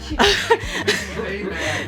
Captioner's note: laughs